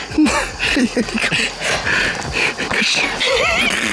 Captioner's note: laughing